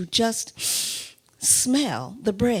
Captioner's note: inhales sharply